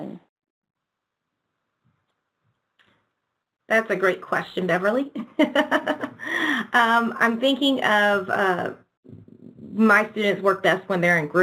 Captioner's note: chuckling